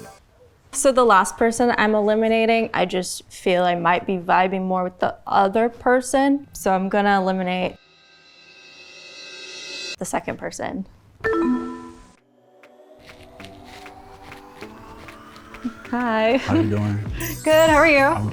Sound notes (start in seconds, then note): 11.3 symbol beeps; 12.8 soft music